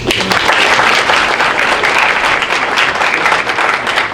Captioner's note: audience applauding